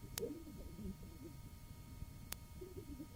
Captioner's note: laughing